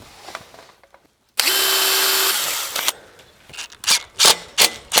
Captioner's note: machine drilling